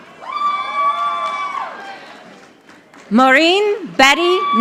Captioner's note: audience applauding